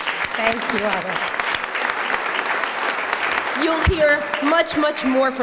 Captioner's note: applause